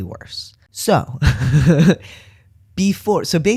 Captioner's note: laugh